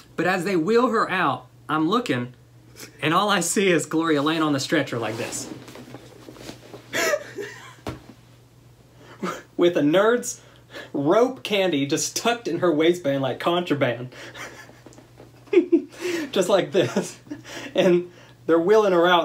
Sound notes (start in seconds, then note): 6.9 laughter; 15.2 laughter